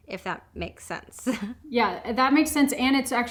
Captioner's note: laughs